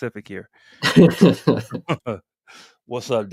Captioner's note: laughter